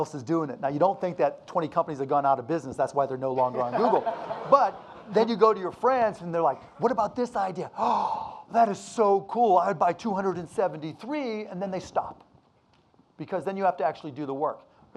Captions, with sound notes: is doing it. Now ya don't think that 20 companies have gone outta business, that's why they're no longer on Google. (audience laughing) But then you go to your friends and they're like, what about this idea? (gasps) "That is so cool. "I'd buy 273." Then they stop because then you have to actually do the work.